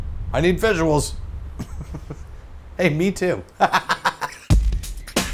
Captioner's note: laughs